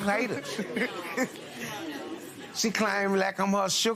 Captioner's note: spectators murmur